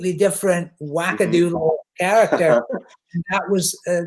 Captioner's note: chuckles